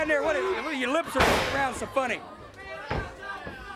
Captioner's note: body thudding; footsteps plodding; crowd clamoring